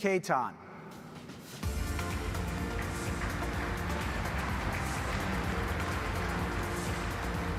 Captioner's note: upbeat music; audience applauding